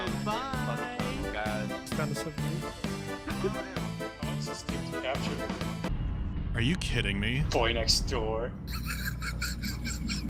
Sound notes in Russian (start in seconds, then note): 8.6 смешок